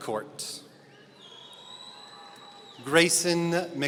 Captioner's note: audience cheering